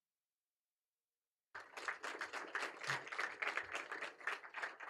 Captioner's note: applause